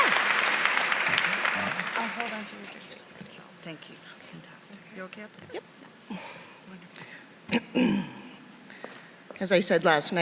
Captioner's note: applause; applause